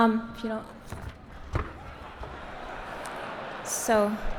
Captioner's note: laugh